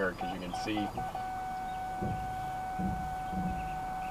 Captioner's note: beeping